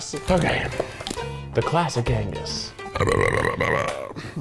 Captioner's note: belches